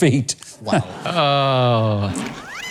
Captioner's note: laughs